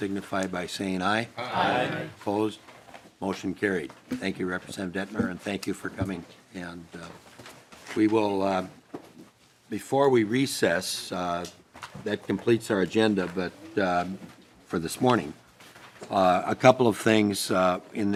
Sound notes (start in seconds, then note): 5.4 chorus of ayes